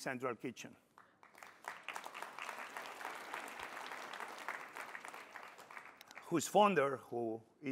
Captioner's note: applause